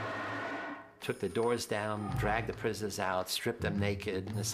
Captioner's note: spraying sound